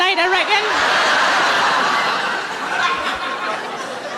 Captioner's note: laughing